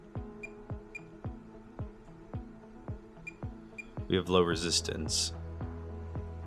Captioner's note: soft beeps